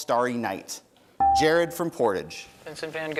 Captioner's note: bell rings